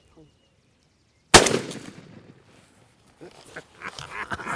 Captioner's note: loud gun shot